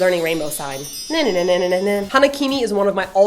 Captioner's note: she hums